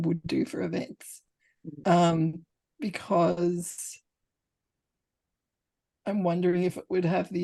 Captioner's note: long pause